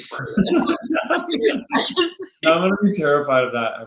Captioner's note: laughing